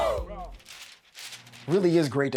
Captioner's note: paper rustling